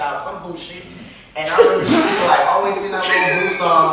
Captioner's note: laughter